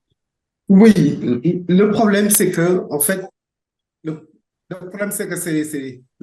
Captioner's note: speaking in French